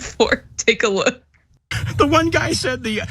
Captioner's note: laugh